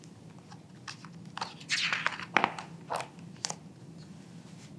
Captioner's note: pages rustling